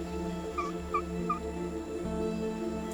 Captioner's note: chirping